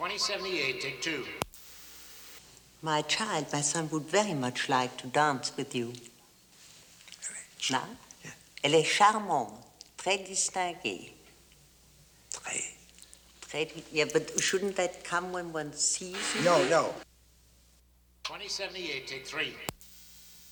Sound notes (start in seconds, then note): 8.7 speaks in French; 11.4 Cukor whispers in French